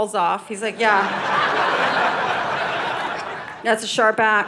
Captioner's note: audience laughing